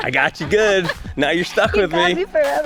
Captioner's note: laughs